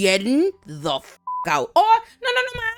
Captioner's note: beep